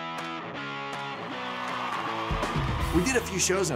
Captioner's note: cheering